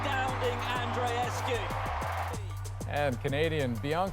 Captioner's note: cheers and Applause